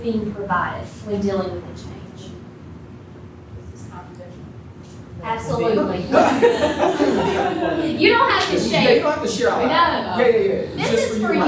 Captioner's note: laughter